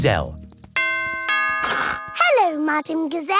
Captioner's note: doorbell rings